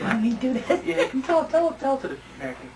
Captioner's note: laughter